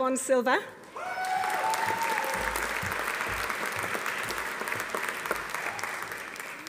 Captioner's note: audience applauding; audience cheering